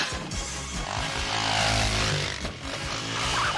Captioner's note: motorbike revving; chickens clucking